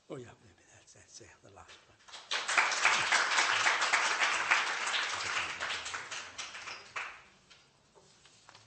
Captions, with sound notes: Yes, that's the last one. [applause]